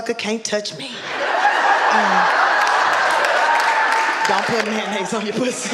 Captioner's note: audience laughing